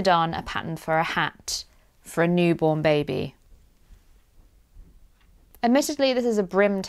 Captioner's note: pregnant pause haha